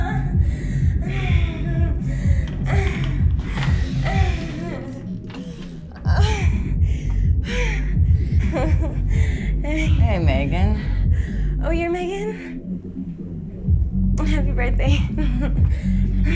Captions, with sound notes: (door swings open) oh...(heavy breathing) Hey Meagan... Oh you're Meagan? Happy birthday. (giggle)